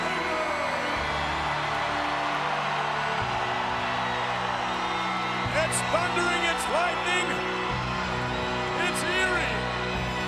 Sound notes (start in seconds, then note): 0.0 crowd cheering; 0.0 dramatic music